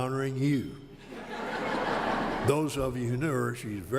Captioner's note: laughter